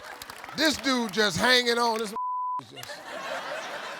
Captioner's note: audience laughs and applauds; beep; audience laughing